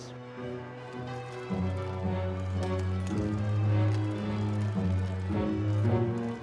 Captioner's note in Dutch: langzame muziek; klokken luiden